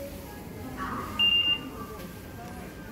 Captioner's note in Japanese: 交通系icカードの決済音